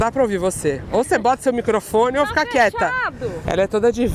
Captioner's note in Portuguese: grita